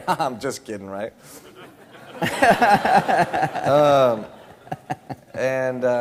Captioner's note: laughter